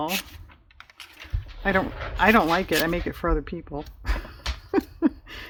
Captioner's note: laughs